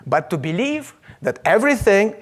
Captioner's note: none